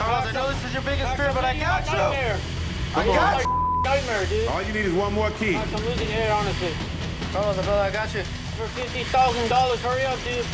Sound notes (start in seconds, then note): 3.4 beep